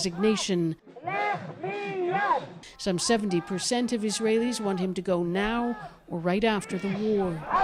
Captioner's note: speaking alternate language